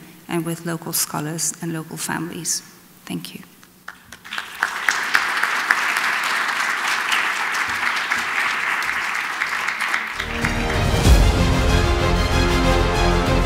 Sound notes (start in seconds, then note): 3.8 audience clapping; 10.2 intense music